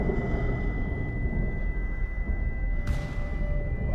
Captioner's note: gun firing